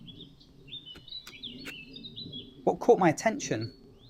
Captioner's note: birds chirping